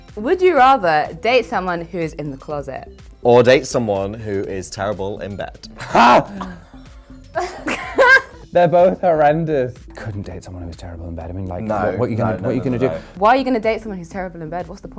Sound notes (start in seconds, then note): 5.8 yells; 7.3 laughing